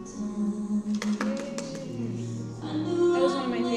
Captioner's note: clapping